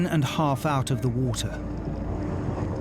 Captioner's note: boat droning; intense music